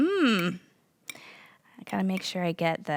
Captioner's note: spoon scraping bowl